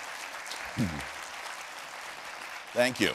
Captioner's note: applause